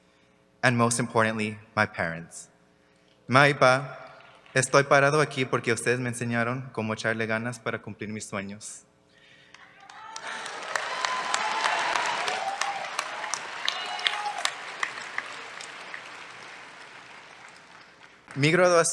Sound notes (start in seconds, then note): 3.0 spanish; 10.0 cheers, applause